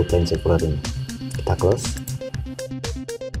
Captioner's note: click